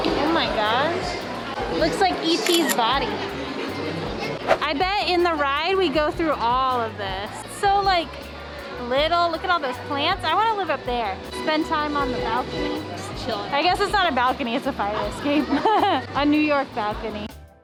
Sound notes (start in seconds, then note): 2.4 camera click; 4.4 swipe; 15.4 laughs weirdly